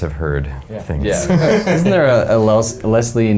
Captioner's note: men laugning